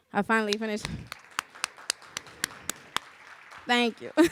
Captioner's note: applause